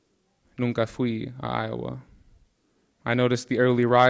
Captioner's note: speaking in Spanish